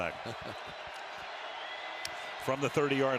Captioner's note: chuckles